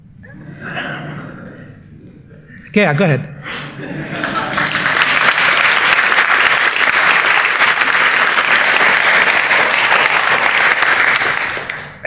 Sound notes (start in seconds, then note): 0.1 laughter; 3.8 laughter; 4.1 applause